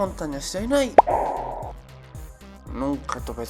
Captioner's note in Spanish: pop